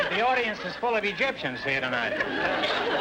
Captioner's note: audience laughter